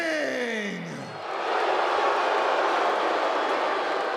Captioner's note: crowd booing